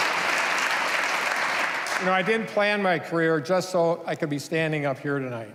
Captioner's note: applause